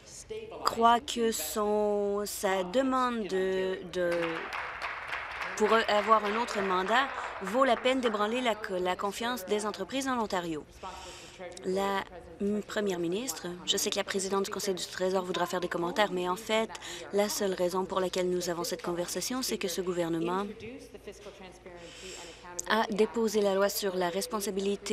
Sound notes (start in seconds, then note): 6.2 applause